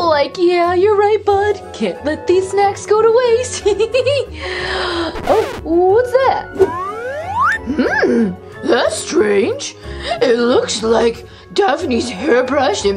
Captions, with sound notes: - Like, yeah, you're right, bud. Can't let these snacks go to waste. (laughing) (record scratches) What's that? - That's strange, it looks like Daphne's hairbrush